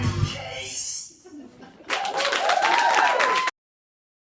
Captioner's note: audience chuckles, then cheers and applauds